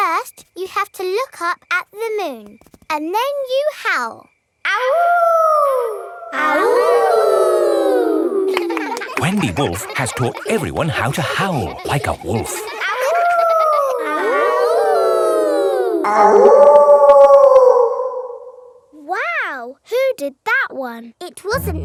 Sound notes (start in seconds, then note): 4.9 howling; 6.8 kids howling; 12.9 howling; 14.6 kids howling; 16.6 wolf howling loudly